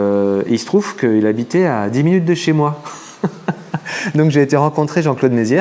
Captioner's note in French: rires